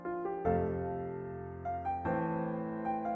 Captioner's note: none